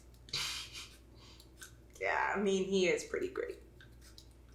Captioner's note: laughing